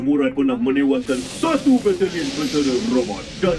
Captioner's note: faint sounds of burning flames